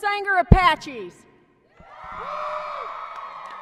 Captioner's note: applause and cheering